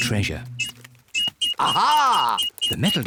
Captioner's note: beeps quickly